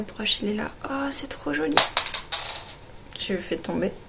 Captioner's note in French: clac